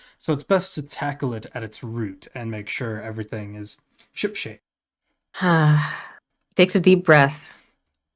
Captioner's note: deep breath